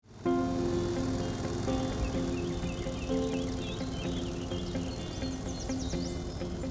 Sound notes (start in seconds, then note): 0.0 mower buzzing; 0.1 contemplative music